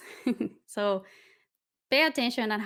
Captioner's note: chuckling